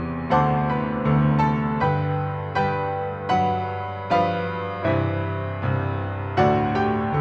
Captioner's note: none